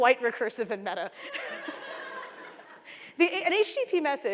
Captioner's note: laughter